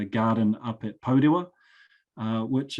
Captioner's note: speaking foreign language